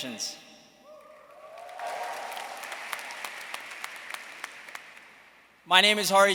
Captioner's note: everyone cheering and applauding